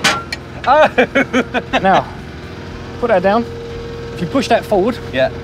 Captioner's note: laughing